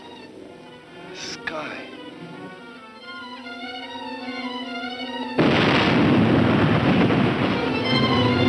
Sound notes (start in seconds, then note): 1.7 tense music; 5.4 exploding